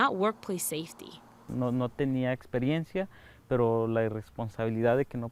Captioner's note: speaking in foreign language